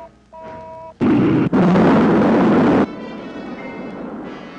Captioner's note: rocket rumbling